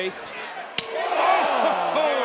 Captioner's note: loud slap